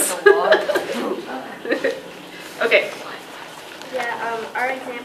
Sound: laughs

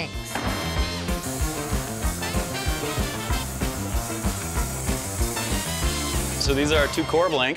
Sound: cutting wood

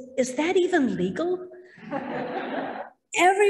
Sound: laughter

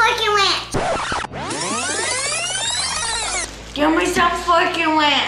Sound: rewind sound

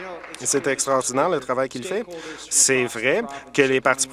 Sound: applause

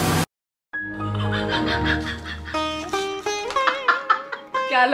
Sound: out of breath laughing

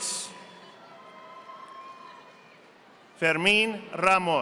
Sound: audience applauding

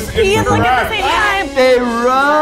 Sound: laughs; beep

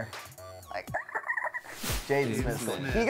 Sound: squeaks

